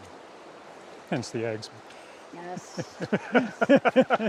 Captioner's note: laughter